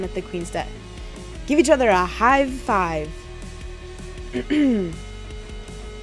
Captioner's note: clears throat